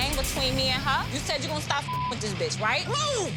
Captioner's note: beep